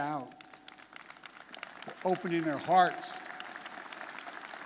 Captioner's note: applause